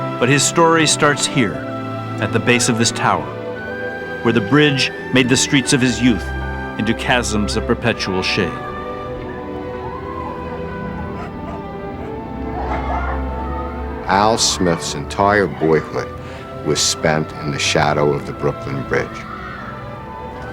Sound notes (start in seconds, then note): 9.8 children Playing, Dogs Barking